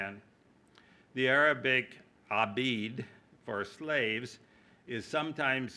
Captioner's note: speaking arabic